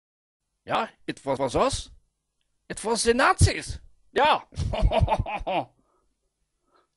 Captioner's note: laughs